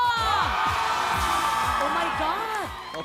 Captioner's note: audience cheering